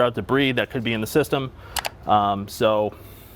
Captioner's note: picture clicks